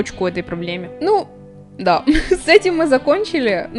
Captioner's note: laughter